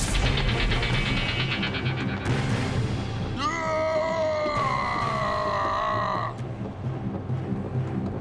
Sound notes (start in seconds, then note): 3.4 growls